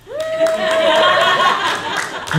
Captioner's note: laughter